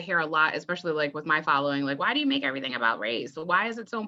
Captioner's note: whiny high-pitched voice